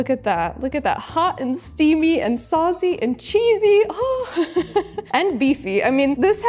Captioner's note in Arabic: يضحك